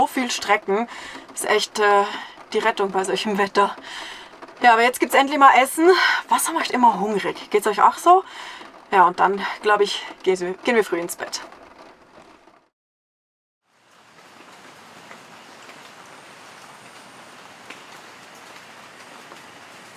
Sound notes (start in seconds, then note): 17.1 patter of rain